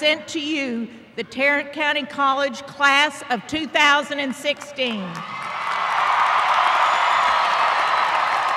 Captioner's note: applause